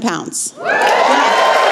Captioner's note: cheering